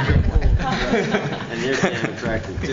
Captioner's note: laughter